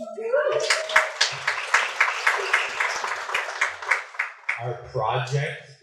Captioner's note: applause